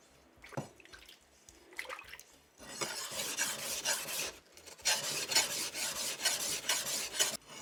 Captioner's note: blacksmith sharpening